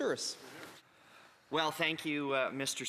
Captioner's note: speaking French